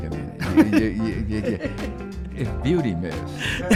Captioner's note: Gary laughs